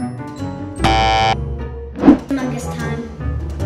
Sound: buzzing

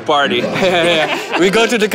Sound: laughs

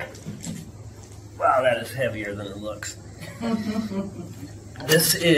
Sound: laughter

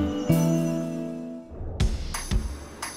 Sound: intro music; whoosh; upbeat music

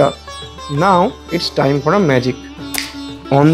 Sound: snap

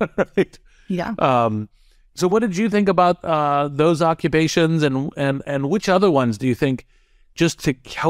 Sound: laugh

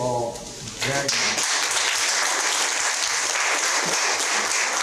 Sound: students applauding

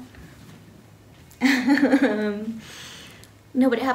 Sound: laughs

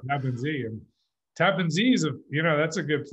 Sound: laughs

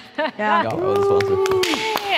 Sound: laughing

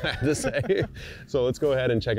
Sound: both chuckling

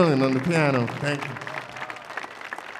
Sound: applause

